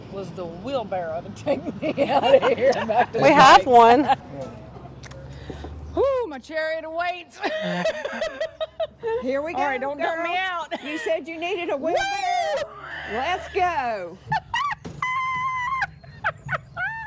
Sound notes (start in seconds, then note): 7.4 laughs; 14.2 laughs